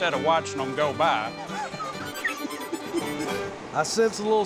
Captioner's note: laughs